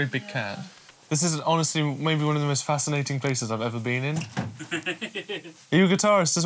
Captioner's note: laughs